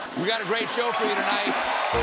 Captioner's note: cheers and applause